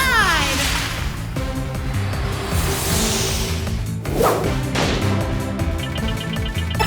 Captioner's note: exciting music; Mimi whooshing; timer beeping